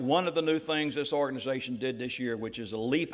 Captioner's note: none